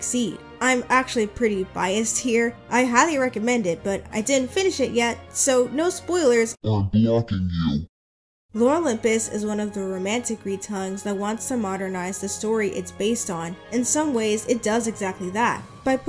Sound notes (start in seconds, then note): 6.3 deep voice